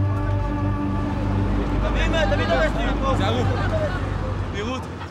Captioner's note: Hebrew spoken audio